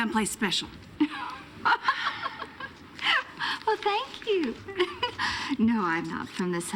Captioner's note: laughing